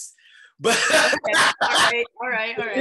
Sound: chuckles loudly

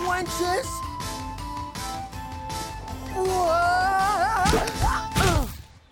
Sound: grunts

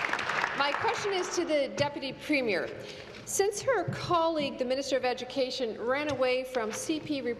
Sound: applause

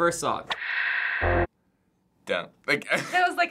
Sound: static

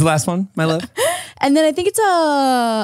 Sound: laughs

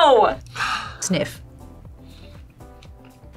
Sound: sighs

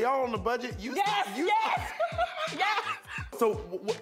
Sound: both laugh

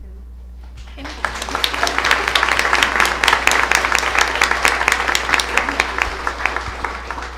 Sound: applause

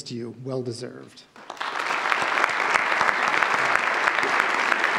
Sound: audience applauds

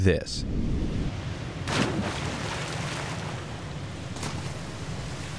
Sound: boulder splashing in water

